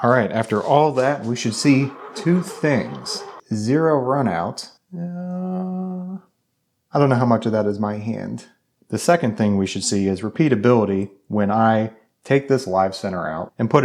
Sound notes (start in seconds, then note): 4.9 humming